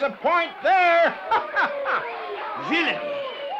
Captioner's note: laughs